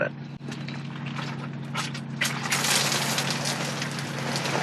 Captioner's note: rain drizzling